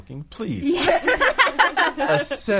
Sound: all laughing

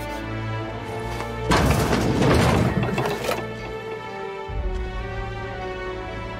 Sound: doors opening

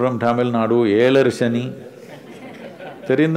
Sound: laughter

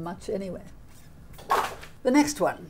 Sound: placard slapping

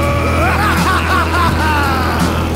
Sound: laughing maniacally

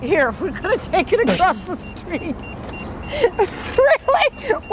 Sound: laughs

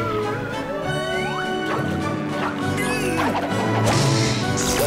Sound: buzzing

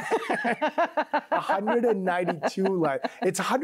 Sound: both laughing

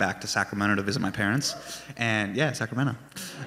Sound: fan cheers

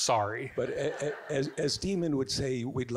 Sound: audience giggling

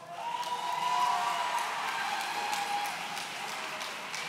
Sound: audience cheering

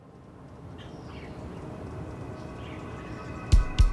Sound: birds chirping

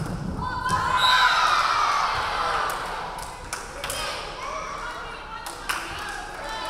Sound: crowd cheering; referee whistling

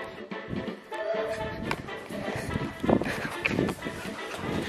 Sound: hard breathing

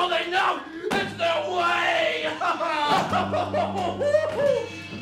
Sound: Montgomery crying

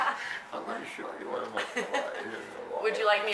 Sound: laughter

